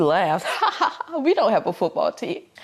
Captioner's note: laughs